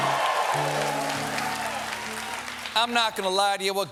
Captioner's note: cheers and applause